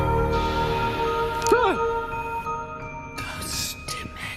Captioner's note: yelling